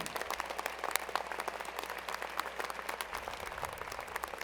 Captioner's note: applause